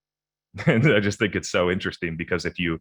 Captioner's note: chuckles